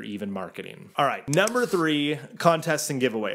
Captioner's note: mouse clicking